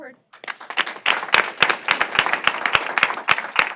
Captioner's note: applause